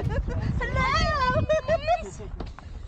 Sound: laughing

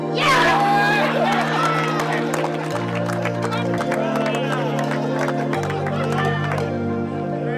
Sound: loud cheering from crowd

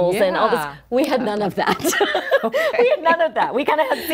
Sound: both chuckles

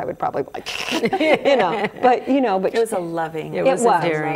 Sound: everyone laughs

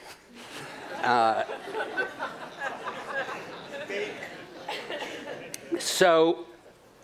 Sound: laughter

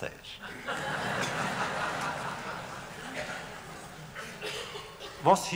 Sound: laughter

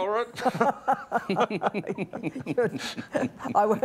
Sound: laughs

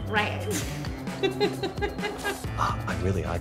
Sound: laughing

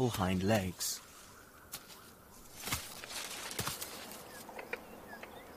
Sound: branches thrashing

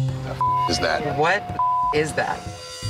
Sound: jazzy music; beep

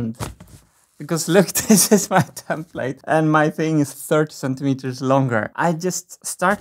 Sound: chuckles

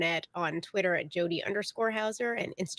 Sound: none

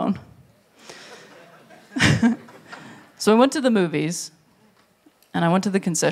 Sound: laughs

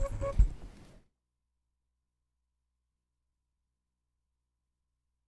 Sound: gavel

